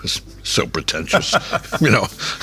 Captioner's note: laughing